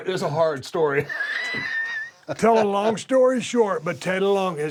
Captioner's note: laugh